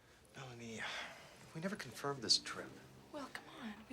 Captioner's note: sighs